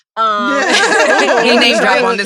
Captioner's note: all laughing